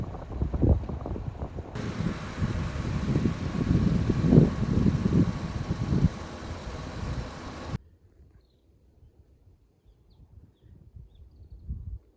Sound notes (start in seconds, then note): 1.7 hungry buzzing; 5.8 grinding